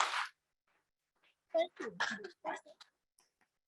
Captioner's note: members clapping